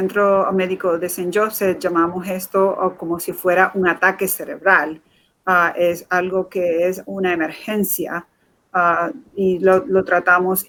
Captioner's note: speaking in Foreign Language